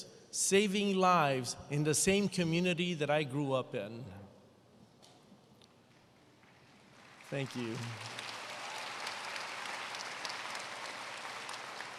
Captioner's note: applause